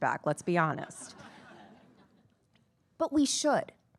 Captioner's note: attendees laughing